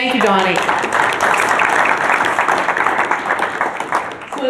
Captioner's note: applause